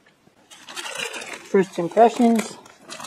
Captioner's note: sound of crinkling metal and plastic